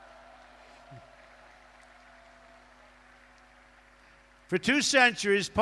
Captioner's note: applause